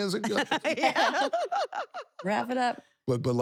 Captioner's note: laugh